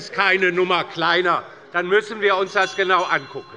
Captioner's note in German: Zurufe - Glockenzeichen des Präsidenten